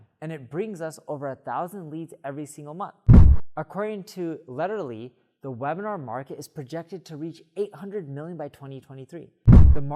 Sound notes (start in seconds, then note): 3.1 frame whooshes